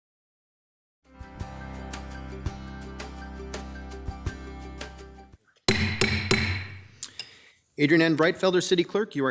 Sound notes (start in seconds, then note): 1.9 instrumental music; 5.7 gavel bangs